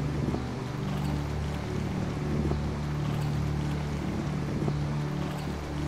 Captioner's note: sound of wind and water